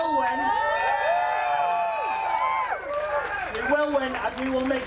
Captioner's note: crowd cheering